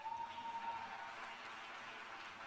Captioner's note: cheers and applause